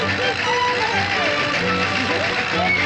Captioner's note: Toad screams with delight